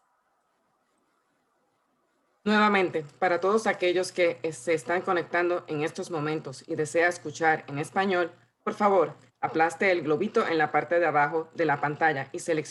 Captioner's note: translator repeats in Spanish